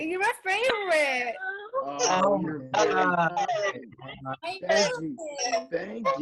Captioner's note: chatter